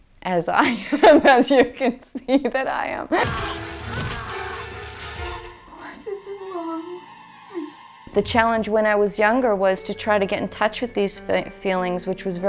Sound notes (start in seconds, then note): 3.2 laughing; 3.3 screaming